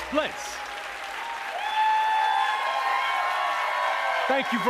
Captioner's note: cheers and applause